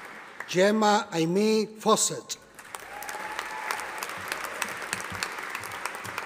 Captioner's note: audience applauding